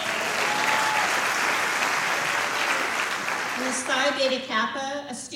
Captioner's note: applause